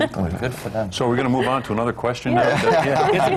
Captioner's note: laughter